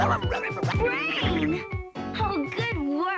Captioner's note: growling